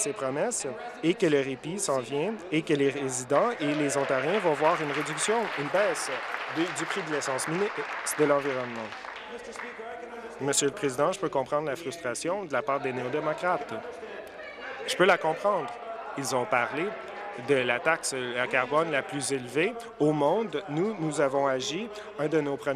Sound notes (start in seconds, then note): 7.3 applause